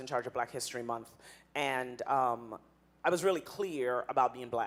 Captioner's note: none